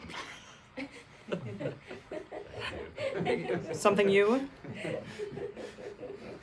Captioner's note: everyone laughs